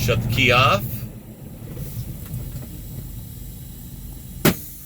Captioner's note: air decompressing